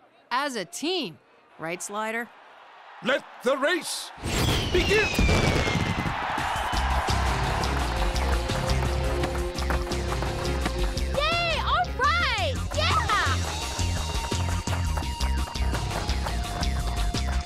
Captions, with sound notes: - As a team! Right, Slider? - Let the race begin. (fireworks rumble) (audience cheers) - Yay! All right, yeah! (upbeat music)